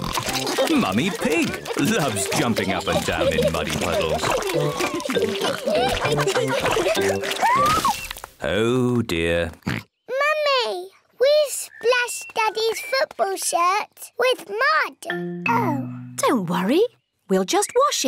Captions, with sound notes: Mummy Pig loves jumping up and down in muddy puddles. Oh, dear. (OINKS) Mummy, we've splashed Daddy's football shirt with mud. -Oh! -Don't worry, we'll just wash it.